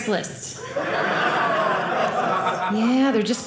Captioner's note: audience laughing